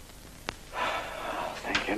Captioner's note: sigh